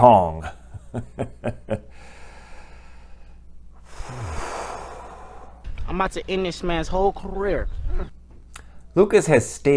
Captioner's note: laugh; breath